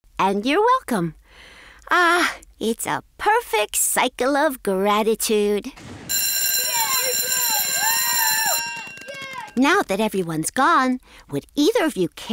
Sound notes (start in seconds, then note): 6.0 bell ringing; 6.6 applause